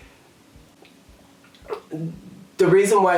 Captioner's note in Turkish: yutkunma sesi